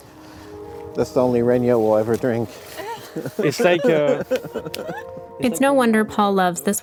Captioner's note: everyone laughs